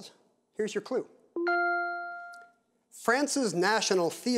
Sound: bell dings

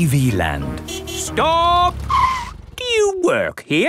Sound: tires screeching

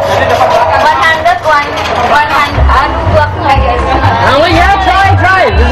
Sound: speaking indonesian

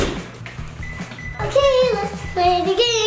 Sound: door slamming; beeping

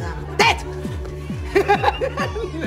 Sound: laughing

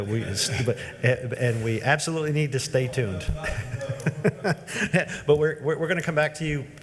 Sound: laughs

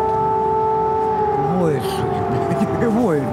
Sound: alarm blaring

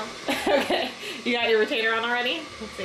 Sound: laughing

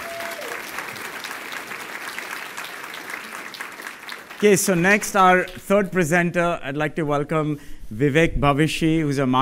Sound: applause

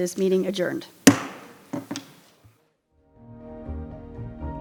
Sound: gavel thudding; bright instrumental music

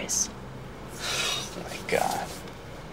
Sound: Whit sighs

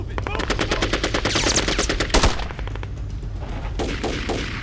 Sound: guns firing

